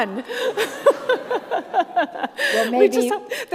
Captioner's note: all laugh